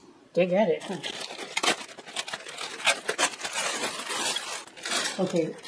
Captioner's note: sound of tape peeled off plastic